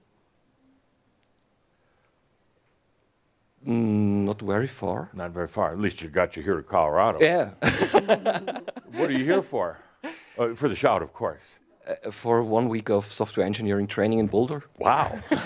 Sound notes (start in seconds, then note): 7.6 he laughs